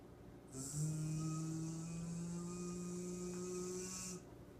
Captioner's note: imitating machine sounds